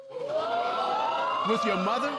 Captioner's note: audience exclaiming